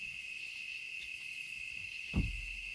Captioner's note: insects humming